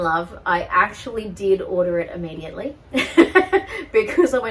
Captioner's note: laughs